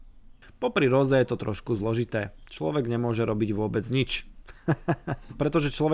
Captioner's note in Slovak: smiech